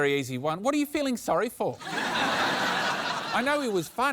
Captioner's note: laughter